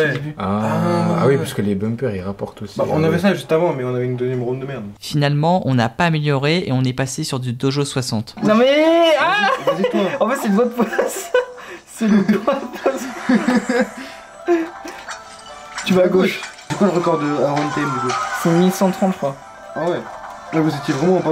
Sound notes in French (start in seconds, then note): 12.0 Rires